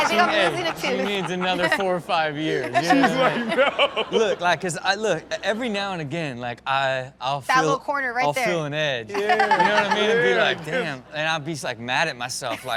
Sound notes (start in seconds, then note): 2.7 everyone laughs